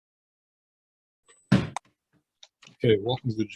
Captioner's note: gavel bangs